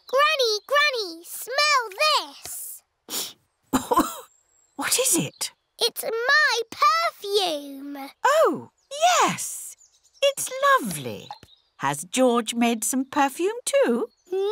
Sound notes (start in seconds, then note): 3.1 sniffs and coughs